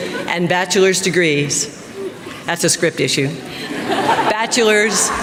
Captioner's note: laughter